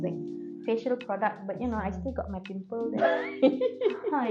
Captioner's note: laughter